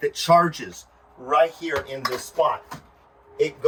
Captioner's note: none